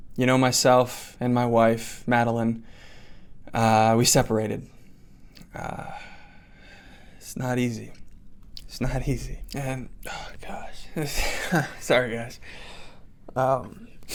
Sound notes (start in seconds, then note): 5.6 sigh; 10.7 sigh